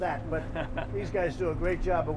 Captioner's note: laughter